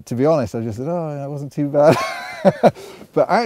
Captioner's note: laughs